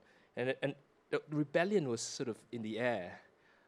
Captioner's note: none